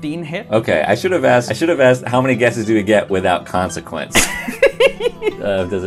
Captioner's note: laughter